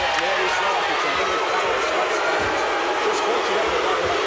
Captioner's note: crowd barks